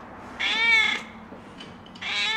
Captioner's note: cat meows